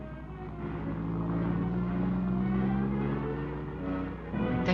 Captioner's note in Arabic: محرك السيارة يدور